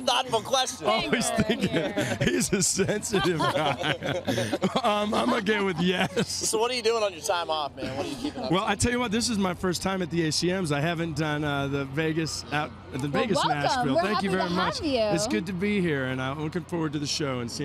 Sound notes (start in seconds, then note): 1.0 laughter; 7.8 laughs